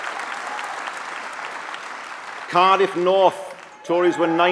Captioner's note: applause